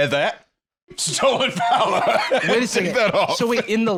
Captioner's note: laughing